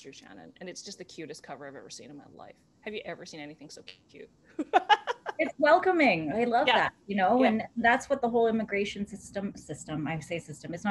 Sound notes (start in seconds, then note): 4.6 laughter